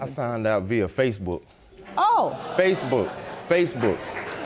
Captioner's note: audience groans